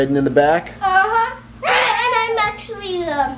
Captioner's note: baby squawks loudly